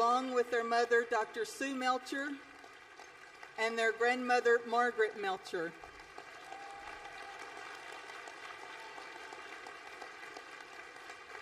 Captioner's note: applause